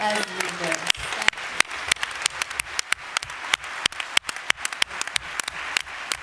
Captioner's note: applause